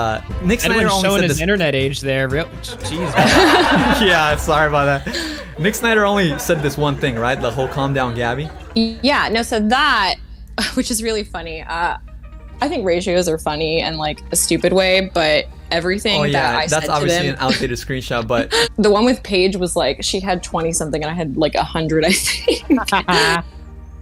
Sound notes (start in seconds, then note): 2.6 laughs; 2.6 audience laugh; 22.7 laughs